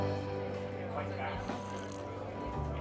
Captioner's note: sipping coffee